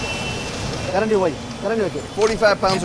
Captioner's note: speaking in foreign language